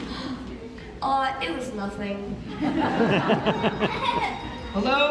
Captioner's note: laughter